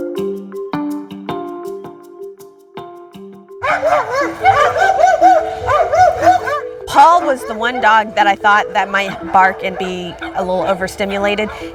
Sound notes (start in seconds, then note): 3.6 dogs barking